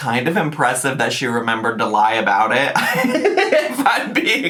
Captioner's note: laughs